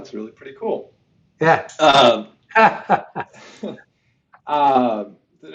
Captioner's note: laughs